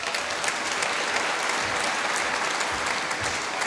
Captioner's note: applause